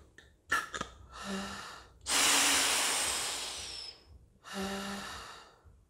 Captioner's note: inhales and exhales deeply